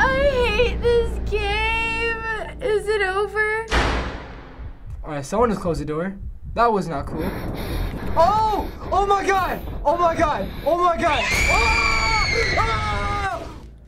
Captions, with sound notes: I hate this game. Is it over? - (door slams) - All right, someone just closed a door. That was not cool. - (rapid, shallow breathes) - OH! Oh my god. Oh my god, oh my god. - (shrieking) - AAAAH! AAAAAH!